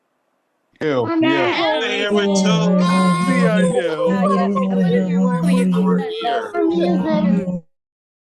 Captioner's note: cheering